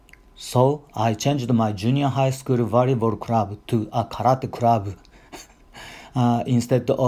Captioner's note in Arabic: يضحك